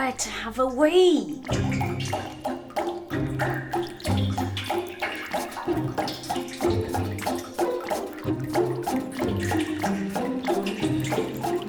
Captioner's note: dripping intensifies